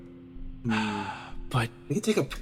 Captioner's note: sigh